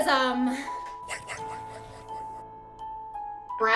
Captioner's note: "white" whispers